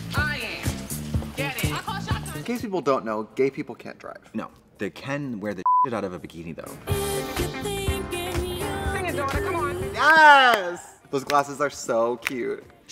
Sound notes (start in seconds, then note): 5.6 beep